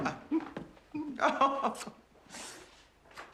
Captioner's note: Tertawa